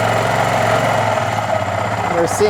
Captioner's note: engine revs down